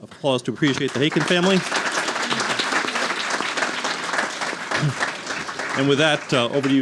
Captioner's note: audience applauding